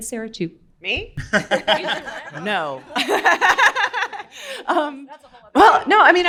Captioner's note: everyone laughs